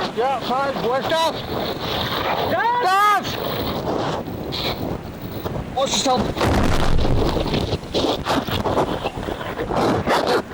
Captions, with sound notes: - Yeah, fine. Where's Daz? - Daz? - Daz! (wind whooshing) Watch yourself. (wind whooshing) (mic scratching) (water whooshing)